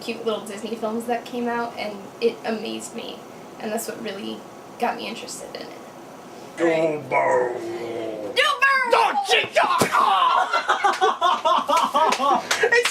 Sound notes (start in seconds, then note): 6.6 deep voice; 9.9 shouts in surprise, then laughs painfully; 11.6 laughing, clapping